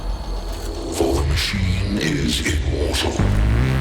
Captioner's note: computer Voice